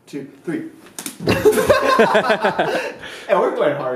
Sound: laughter

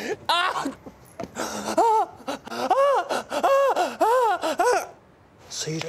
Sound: moaning in pain

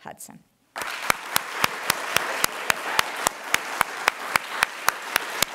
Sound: applause

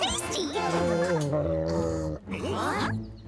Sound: shark groaning

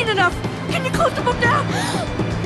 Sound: gasps

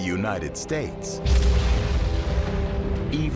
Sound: explosion

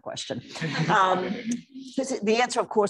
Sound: laughter

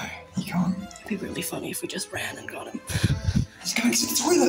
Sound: giggles

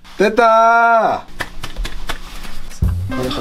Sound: clap clap clap

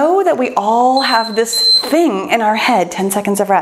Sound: timer beeps

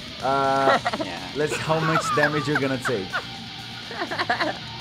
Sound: laughs; laughs

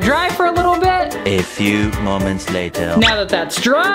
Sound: French accented voice

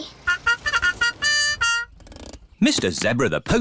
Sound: horn tooting

